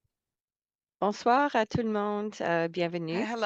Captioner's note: non-english speech